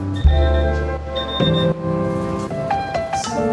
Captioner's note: timer beeps